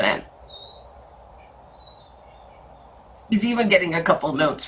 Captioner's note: bird chirping